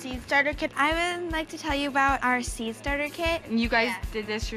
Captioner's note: none